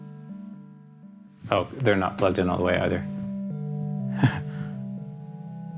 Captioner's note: laughs